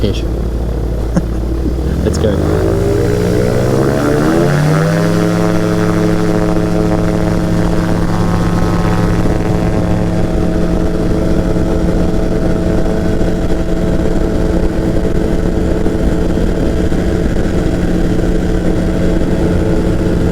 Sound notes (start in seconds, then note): 1.0 laughs; 4.0 engine roars